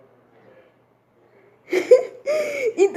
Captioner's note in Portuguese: risada